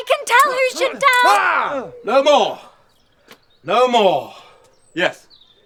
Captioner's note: shout